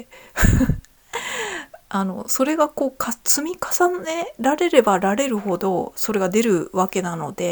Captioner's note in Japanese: 笑い